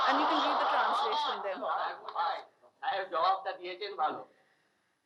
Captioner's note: speaking in foreign language